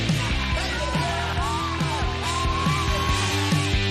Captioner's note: kids cheering